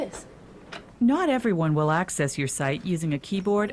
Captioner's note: voiceover